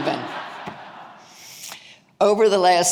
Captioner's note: audience laughing